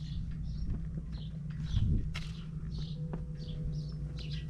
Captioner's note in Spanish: piar de los pájaros